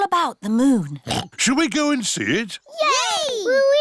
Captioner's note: oinks